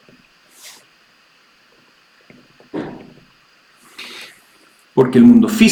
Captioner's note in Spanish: resoplido